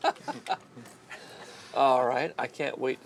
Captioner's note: laughing